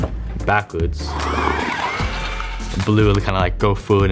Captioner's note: car whooshing